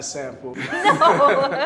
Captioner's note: laughter